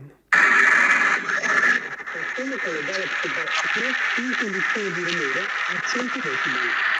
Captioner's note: laughs